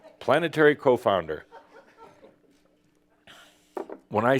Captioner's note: a few chuckles